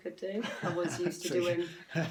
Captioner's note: laughs